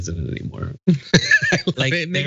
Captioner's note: laugh